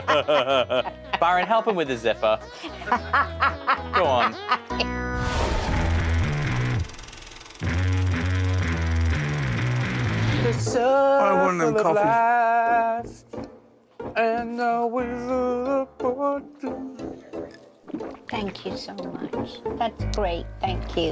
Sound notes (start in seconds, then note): 2.4 Sharon laughs